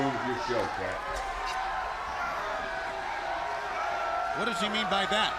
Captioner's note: crowd chatter